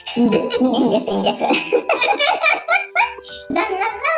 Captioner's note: laughs